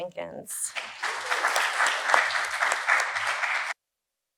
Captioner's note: applause